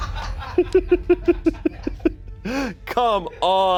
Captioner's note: audience members laughing; laughing